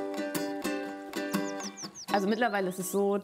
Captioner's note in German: Vogelgezwitscher